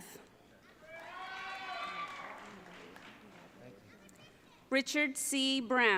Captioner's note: audience cheering